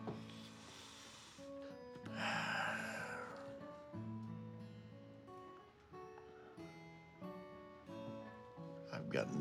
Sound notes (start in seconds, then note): 2.0 sighs